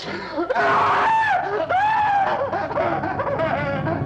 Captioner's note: screaming